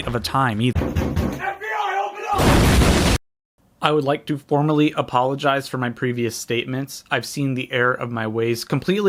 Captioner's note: knocking; explosion